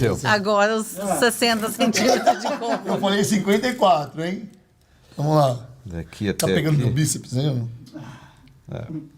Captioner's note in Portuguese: risadas